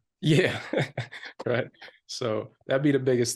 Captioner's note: chuckles